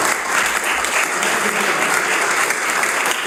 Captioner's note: applause